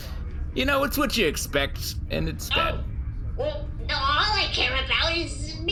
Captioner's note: optimistically